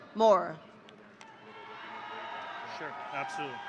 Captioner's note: audience cheering